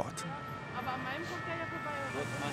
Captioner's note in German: Polizeisirene